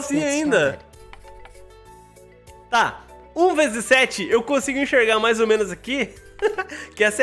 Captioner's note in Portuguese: risos